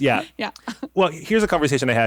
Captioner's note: laughs